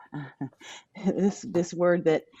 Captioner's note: laughs